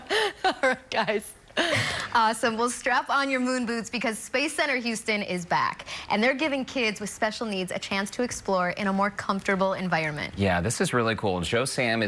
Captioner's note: laughter